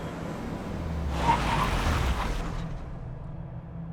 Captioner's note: tires squealing